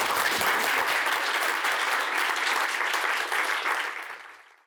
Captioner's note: applause